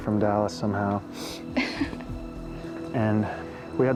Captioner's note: laughs